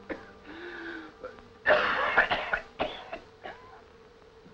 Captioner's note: coughing